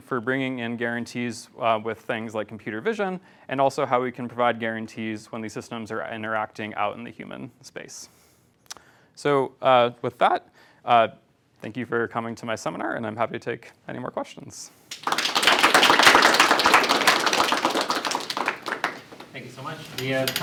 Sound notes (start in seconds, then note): 14.9 applause